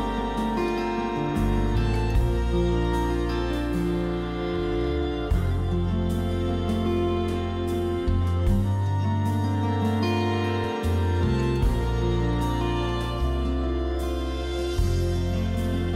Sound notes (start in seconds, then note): none